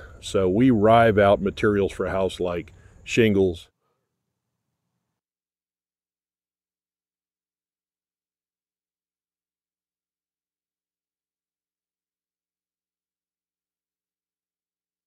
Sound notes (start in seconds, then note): none